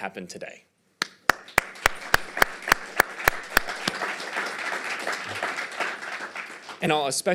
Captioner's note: applause